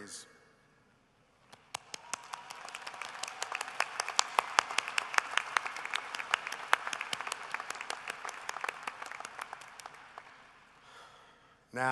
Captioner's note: applause